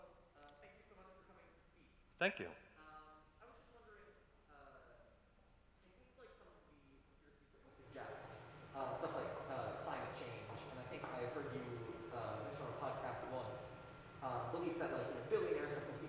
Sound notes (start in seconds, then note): 7.9 speaking softly